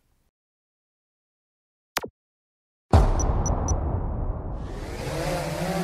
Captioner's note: drone beeps, then whirs to life